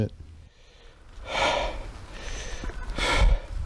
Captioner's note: breathing